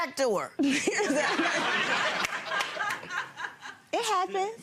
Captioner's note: crowd laughing